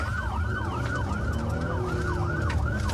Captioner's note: engine guns